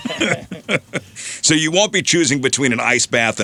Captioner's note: laughing